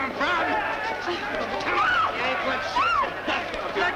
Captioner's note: screaming